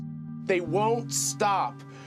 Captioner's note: soundbite of archived recording